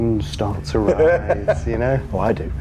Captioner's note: laughing